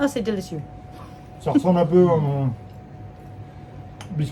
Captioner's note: both speaking in French